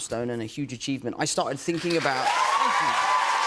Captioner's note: cheers and applause